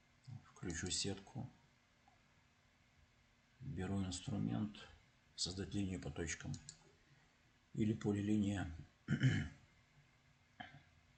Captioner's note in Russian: откашливается